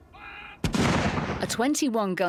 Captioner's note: cannons booming